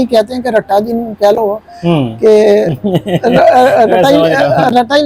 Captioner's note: laughter